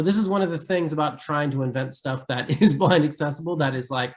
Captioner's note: giggles